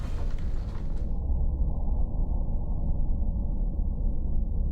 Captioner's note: ominous rumbling